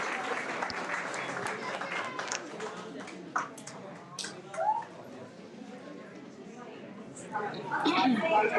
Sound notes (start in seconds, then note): 2.2 people chattering